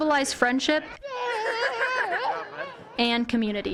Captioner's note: cheering